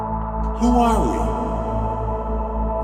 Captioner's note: echoing